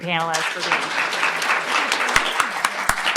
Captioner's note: applause